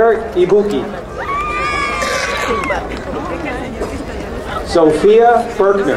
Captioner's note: crowd cheering